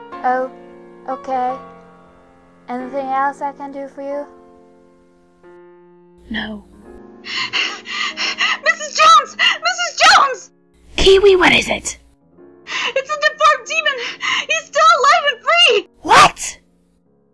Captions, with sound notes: Oh, okay. Anything else I can help you with? No... *panting, Kiwi calling* Mrs Jones! Mrs Jones! Kiwi, what is it? It's the Deformed Demon! He's still alive and free! WHAT?!